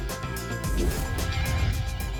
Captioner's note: whoosh